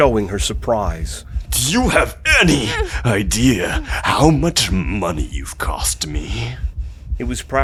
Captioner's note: raised voice